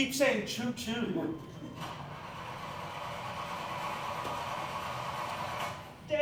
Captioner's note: sound of a car cranking